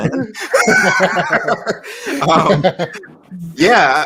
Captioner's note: laughter